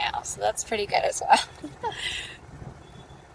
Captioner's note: laughs